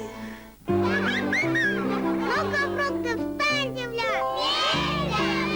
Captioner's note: laughter